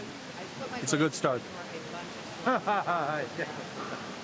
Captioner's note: laughs